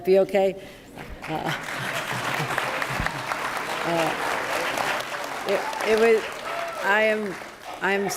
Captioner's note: applause